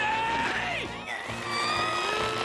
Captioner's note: straining grunts; loud fart